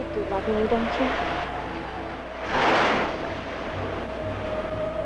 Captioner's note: waves crashing; eerie dramatic music